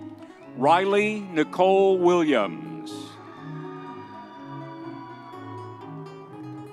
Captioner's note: crowd cheering